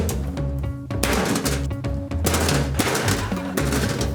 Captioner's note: cans thudding